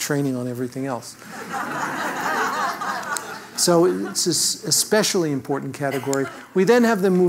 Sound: laugh

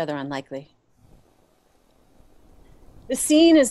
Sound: wind and rain

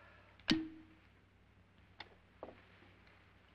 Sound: cork pops

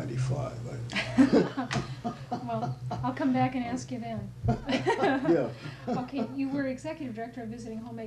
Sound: laughter; laughter

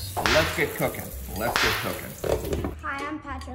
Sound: whip cracking

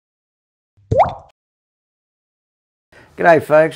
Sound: water drip

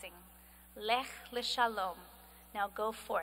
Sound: speaking hebrew

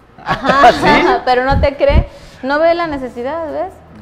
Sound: laughs

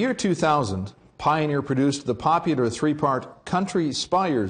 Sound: voiceover

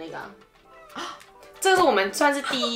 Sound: gasp

